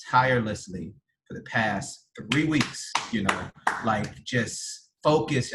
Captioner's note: some people start to clap